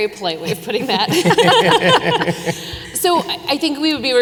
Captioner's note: panelists laughing